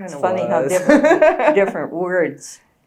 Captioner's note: laughs